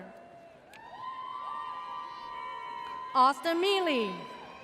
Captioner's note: audience cheers